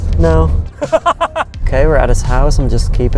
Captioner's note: laughs